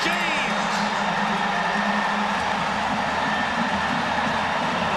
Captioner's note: crowd cheering